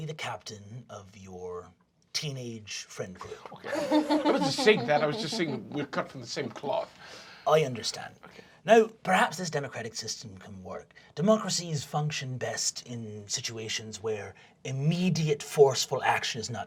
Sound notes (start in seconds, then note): 3.2 laughing